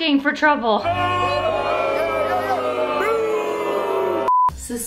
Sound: crowd booing

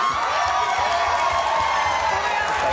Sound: audience cheers

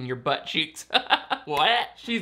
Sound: laughing

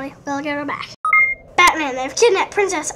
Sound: beep!

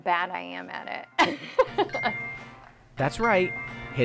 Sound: laughter

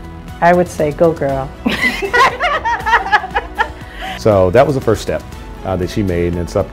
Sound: laugh

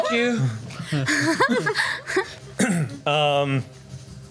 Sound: laughs

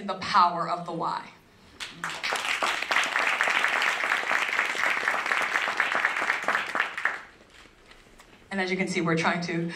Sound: applause

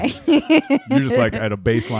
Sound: laughing

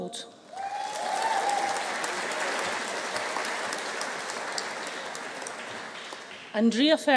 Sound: audience cheering; audience applauding

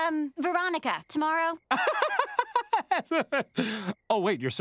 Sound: laughing

